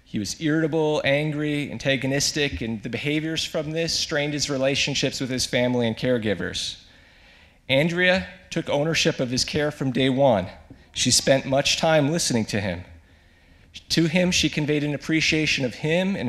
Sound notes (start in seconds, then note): none